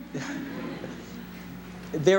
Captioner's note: laughter